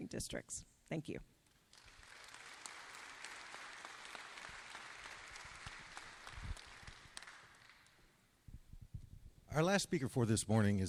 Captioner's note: applause